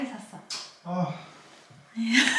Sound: sighs

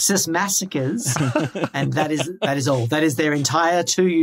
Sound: laugh

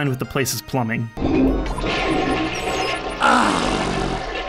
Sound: toilet flushes

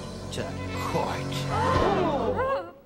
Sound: all gasp

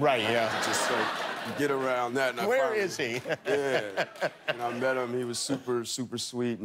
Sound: laughter

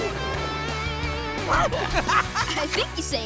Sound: laughing

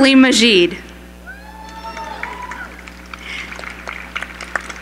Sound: applause

